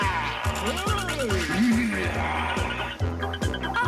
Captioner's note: growling